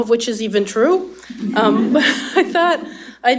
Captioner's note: laughter